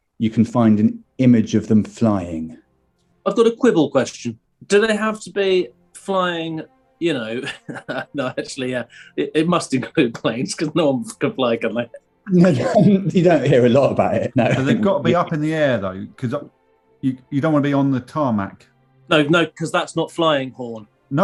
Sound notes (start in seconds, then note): 7.3 chuckling; 12.3 laughing